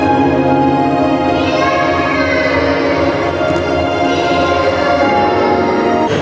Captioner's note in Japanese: 子供の泣き声